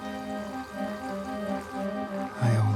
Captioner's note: transition fluttering; light orchestral music; water rustling continues